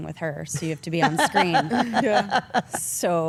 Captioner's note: Stephanie laughs